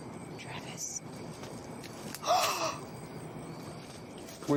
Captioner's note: gasps